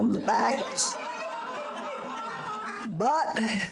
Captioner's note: audience laughter